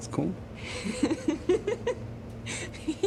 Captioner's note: Elisa laughing